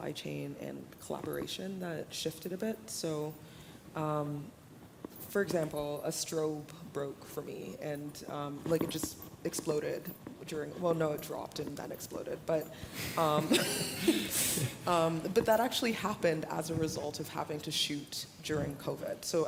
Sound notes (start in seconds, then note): 13.4 laughter